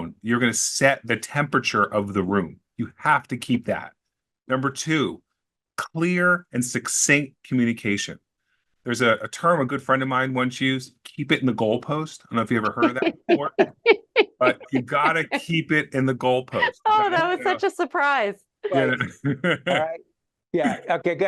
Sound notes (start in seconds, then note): 12.3 laughing